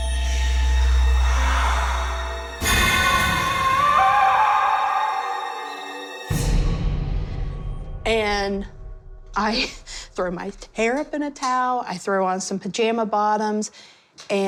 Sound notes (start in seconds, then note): 3.5 screams